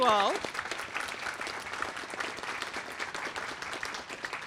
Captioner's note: applause